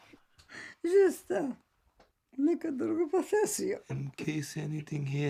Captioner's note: Zora speaking Serbian